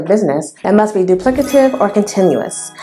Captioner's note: sound effect